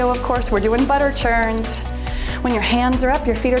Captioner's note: timer beeps